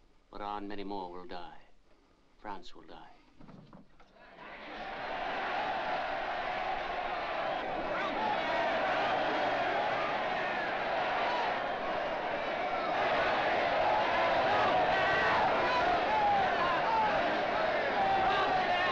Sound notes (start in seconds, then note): 4.1 crowd cheering; 7.9 man chants "Robespierre!"; 11.0 crowd cheering & clamoring